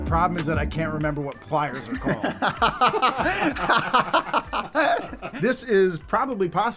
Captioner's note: laughs